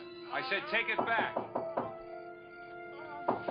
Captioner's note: knocking